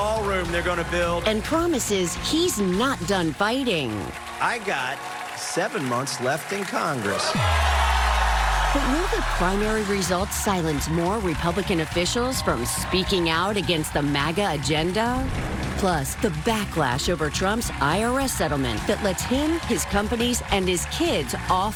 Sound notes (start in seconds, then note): 12.5 cheers